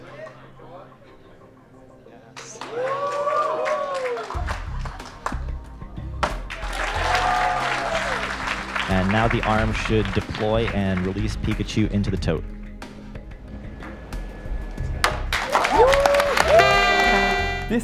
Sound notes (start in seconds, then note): 2.5 cheers; 4.0 clapping; 15.4 cheering